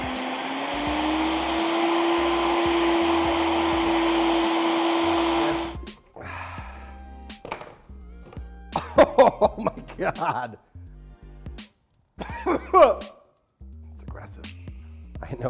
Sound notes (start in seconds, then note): 0.0 blender running; 6.1 jazz music; 12.2 coughs